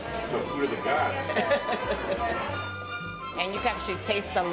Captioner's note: laughs